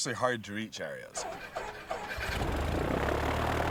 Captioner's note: whirring